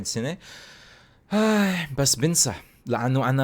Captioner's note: sigh